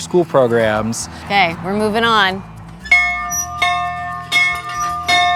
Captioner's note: bell tolling